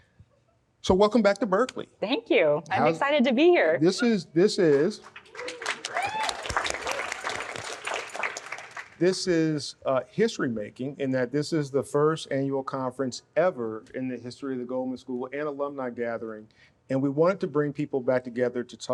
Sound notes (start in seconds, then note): 5.2 audience cheering